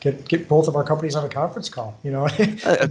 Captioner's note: laughs